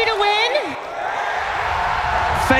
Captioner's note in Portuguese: aplausos